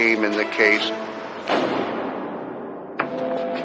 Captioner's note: door slams; dramatic music